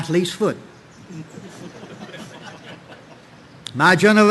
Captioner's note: audience laughing